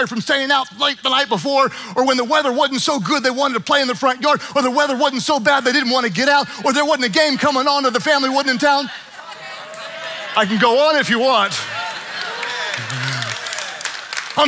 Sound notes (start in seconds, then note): 9.2 congregants murmuring; 11.6 congregation murmuring and clapping